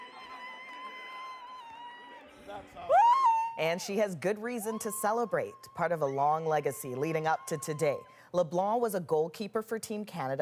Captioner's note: screaming